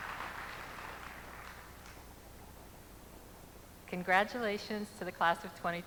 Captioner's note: applause